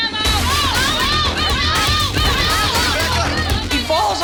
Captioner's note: crowd cheering